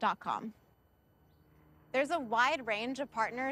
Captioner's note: engine rumbling